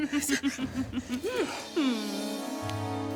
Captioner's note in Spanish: Risa alocada de Teresa C